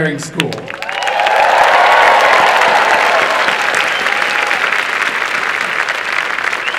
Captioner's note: applause and cheering